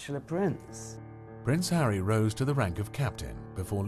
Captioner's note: voiceover